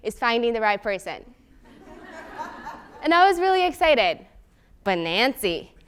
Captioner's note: laugh